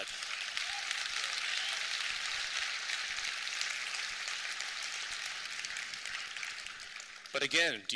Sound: applause

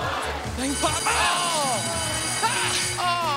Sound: bell rings

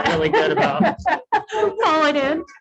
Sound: woman laugs

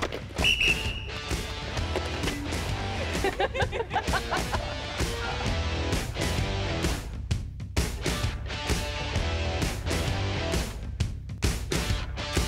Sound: whistle

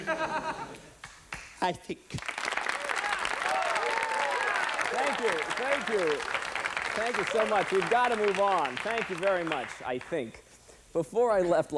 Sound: applause; over applause

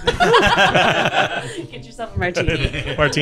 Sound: everyone laughing

